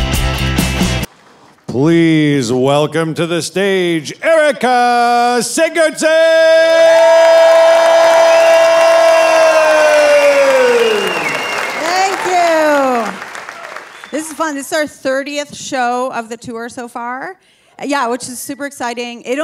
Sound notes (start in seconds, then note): 6.1 audience cheering